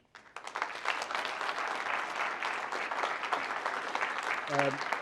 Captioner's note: applause